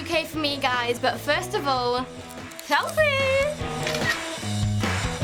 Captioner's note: camera snaps; punk rock music